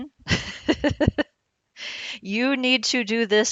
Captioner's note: laughs